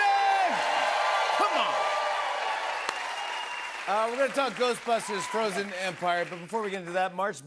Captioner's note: cheers and applause